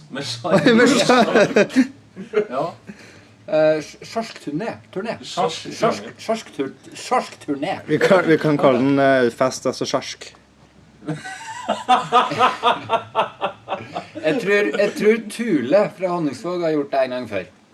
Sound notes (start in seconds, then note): 0.5 laughs; 11.0 laughs